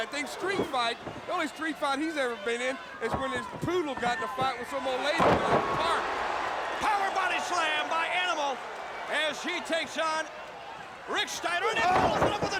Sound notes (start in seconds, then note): 6.2 crowd cheering